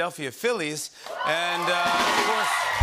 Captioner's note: cheers and applause